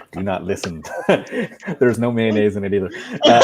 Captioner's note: laughing